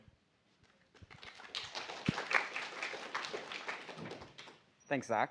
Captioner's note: applause